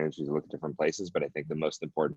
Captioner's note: audio distorts